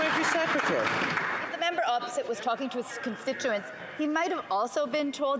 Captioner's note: some Applause